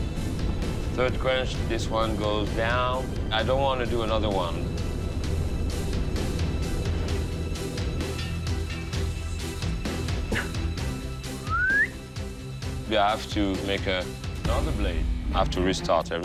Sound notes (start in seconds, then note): 11.3 whistle